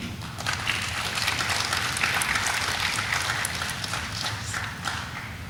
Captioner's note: audience applauding